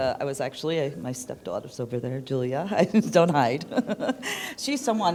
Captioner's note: laughter